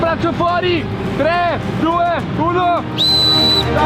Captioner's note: whistle